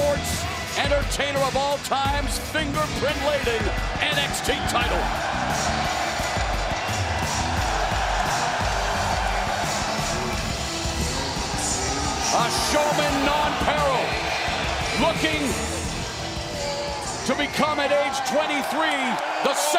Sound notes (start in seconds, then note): 6.1 crowd cheering